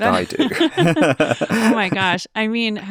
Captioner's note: group laughing